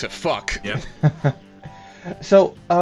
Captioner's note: chuckles